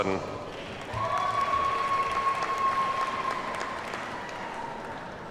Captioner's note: audience cheers and applauds